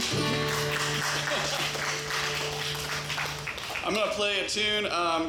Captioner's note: audience applauds; laughs